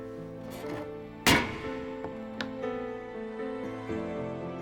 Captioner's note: banging; somber music